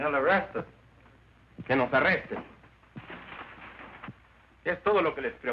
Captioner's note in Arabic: رامون يتحدث الاسبانية